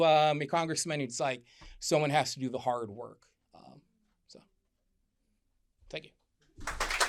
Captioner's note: applause